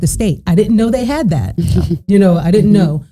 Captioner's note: chuckling